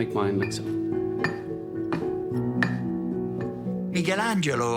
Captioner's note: chisel chinks against stone